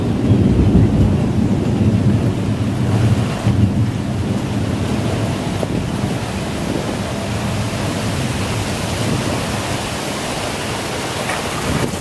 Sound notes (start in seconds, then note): 1.0 heavy rain